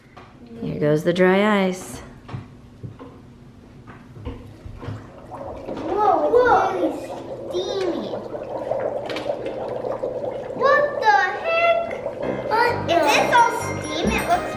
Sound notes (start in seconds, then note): 8.9 liquid bubbling